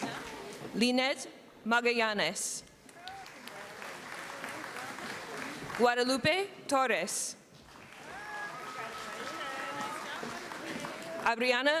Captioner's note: applause